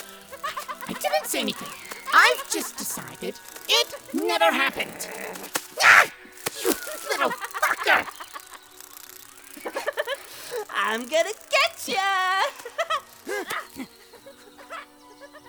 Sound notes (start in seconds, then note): 5.7 screams; 12.4 giggles